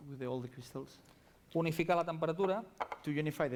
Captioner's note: non-english speech